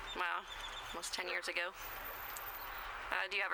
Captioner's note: birds chirping, dog barking